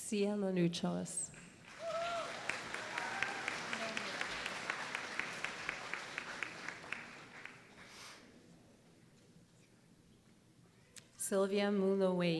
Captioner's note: applause